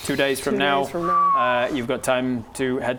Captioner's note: whistles